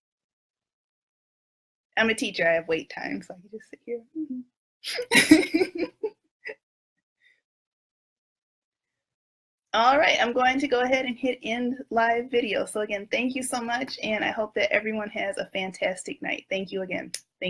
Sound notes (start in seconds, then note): 4.9 laughs